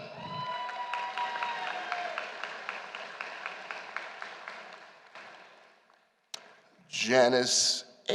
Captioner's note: applause